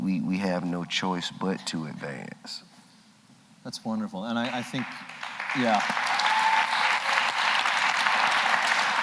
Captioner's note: applause